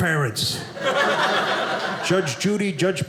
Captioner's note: audience laughing